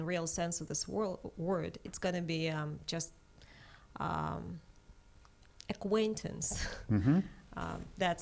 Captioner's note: laughs